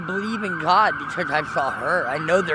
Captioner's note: emergency vehicle sirens